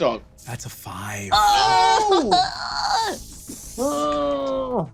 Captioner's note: groans